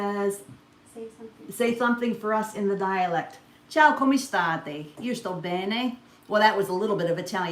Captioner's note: speaks Sicilian/Italian